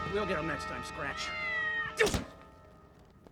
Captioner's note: meows